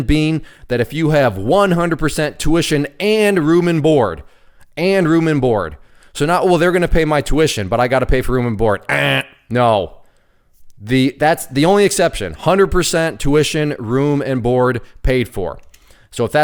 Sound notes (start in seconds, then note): 8.9 imitates buzzer buzzing